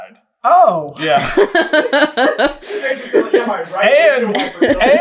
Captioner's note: laughter